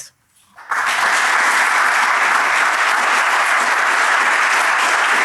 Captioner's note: applause